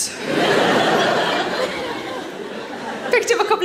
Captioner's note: audience laughing